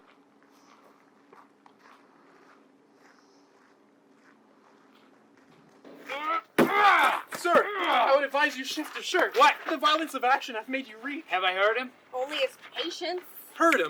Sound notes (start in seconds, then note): 6.0 Cloten shouts with anguish